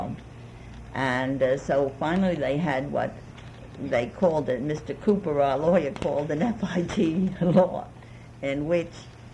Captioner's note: laughs